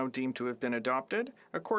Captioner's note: speaking French